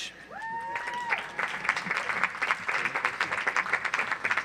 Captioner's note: audience applauds